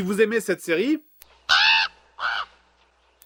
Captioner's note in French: cris de corbeau